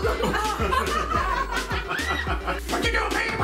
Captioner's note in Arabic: ضحك